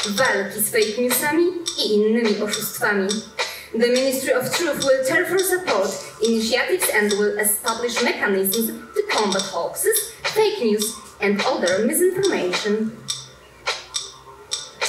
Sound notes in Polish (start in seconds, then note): 4.5 Po angielsku